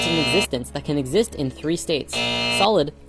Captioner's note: buzz; buzz